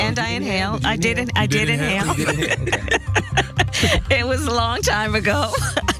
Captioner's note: laugh